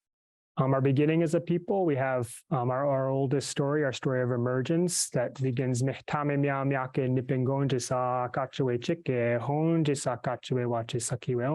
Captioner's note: speaking Myaamia